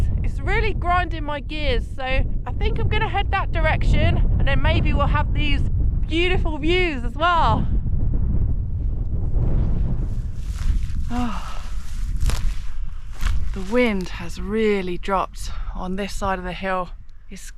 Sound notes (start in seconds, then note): 8.2 wind